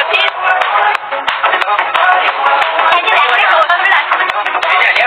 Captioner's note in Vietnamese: Vỗ tay